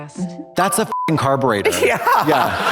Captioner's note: beep